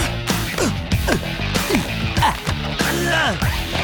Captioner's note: grunting, straining